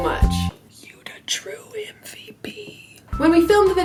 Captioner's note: whisper